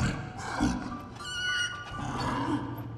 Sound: squealing

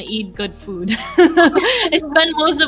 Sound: chuckles

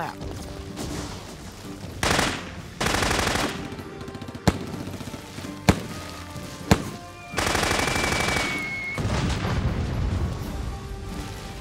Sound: gun shots

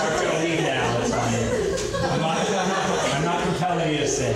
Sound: crowd laughs

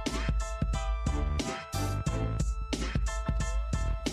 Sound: none

